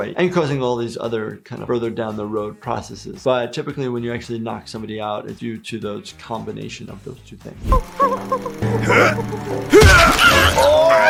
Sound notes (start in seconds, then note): 8.7 Toothy whimpering